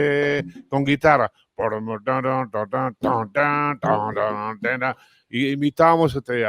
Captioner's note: Imita guitarra